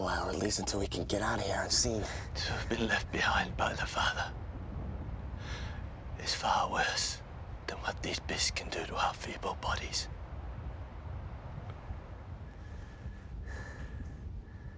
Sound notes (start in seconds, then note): none